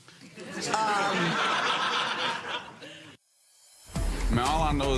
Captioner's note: audience laughing; upbeat music